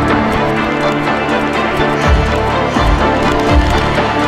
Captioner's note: pages flipping